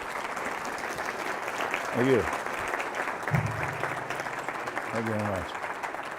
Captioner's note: applause